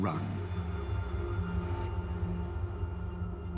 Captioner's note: echoing tones